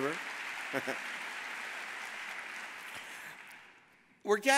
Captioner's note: audience applauding